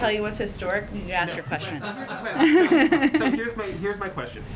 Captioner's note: laughter